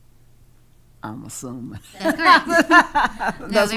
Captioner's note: laughing